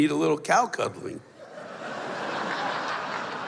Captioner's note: laughter